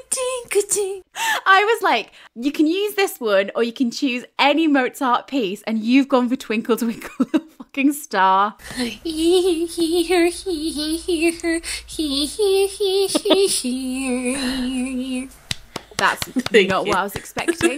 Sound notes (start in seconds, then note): 8.7 humming